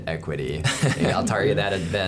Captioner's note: laughing